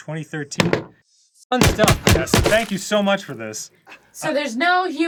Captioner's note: banging aggressively